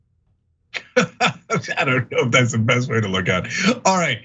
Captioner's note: laugh